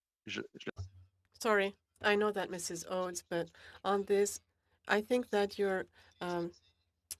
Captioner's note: speaking French